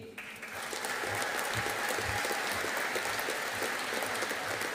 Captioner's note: audience applauding